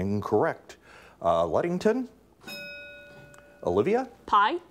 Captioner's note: bell rings